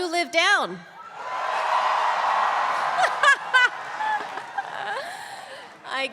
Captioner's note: laugh; applause